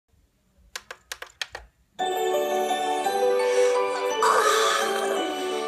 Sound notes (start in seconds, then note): 4.0 Tootle Yawning